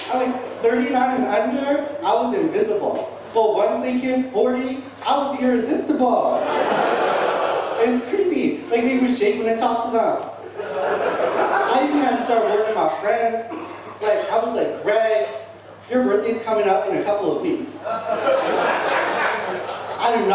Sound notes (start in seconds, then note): 6.3 audience laughing